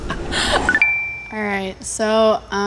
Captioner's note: laughing; chime